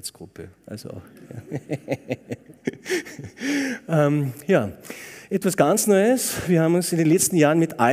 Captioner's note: laughter